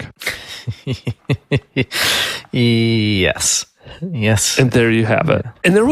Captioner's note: laughs